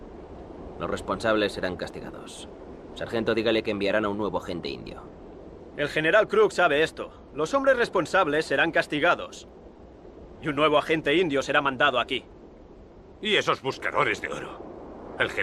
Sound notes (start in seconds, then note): 5.8 Ramirez speaks Spanish